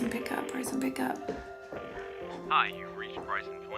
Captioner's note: phone ringing